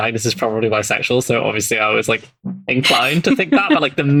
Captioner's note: laughs